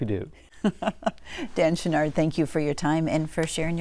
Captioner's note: laughter